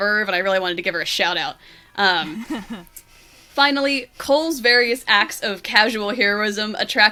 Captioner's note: laughs